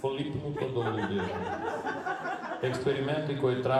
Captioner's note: laughing